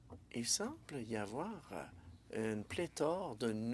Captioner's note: speaking French